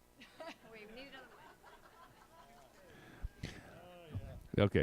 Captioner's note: audience laughs